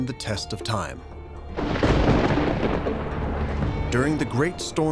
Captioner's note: thunder crashing